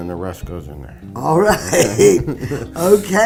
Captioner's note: laughs